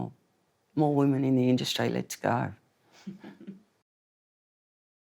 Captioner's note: laughs